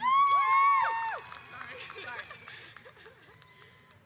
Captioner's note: audience cheers